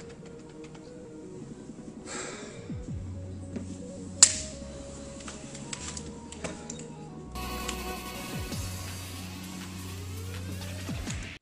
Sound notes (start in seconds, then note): 0.0 music playing behind door; 4.2 snap; 4.6 music playing behind door